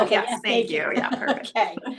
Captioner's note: laughs